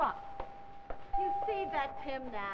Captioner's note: door bell rings